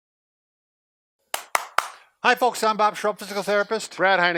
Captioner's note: claps